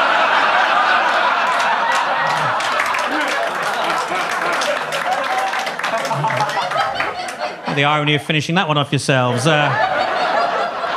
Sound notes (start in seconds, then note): 0.1 audience laughing; 2.1 audience applauding